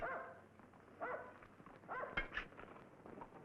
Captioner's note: dog barking